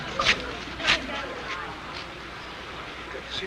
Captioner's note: audience tittering